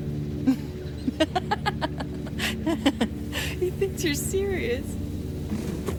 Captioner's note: chuckle